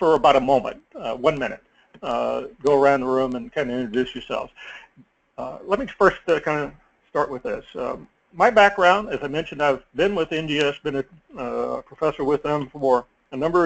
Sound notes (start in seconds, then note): none